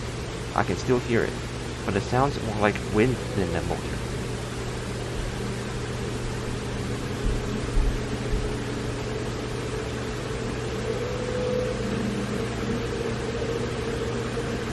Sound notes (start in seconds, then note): 4.7 fan gets louder; 10.8 high pitched fan whine; 12.2 maximum fan noise